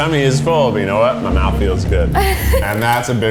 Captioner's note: laughs